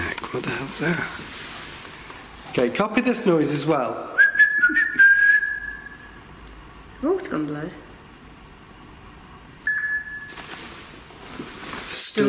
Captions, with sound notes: It's a creak in there, what the hell is that? Copy this noise as well. (whistling) - The alt's gone blue. (beeping)